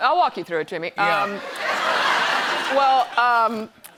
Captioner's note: laughter